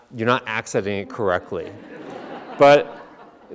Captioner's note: audience laughing